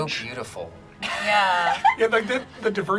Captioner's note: group laughs